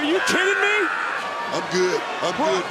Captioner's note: crowd chanting "nxt"; yelling